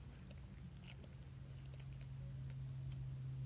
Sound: lip smacking; licking

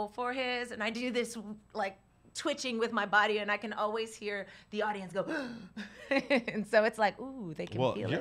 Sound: gasp

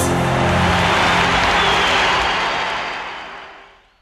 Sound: crowd roars

